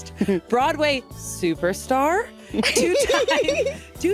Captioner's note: chuckling